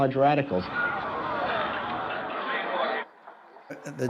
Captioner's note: audience groans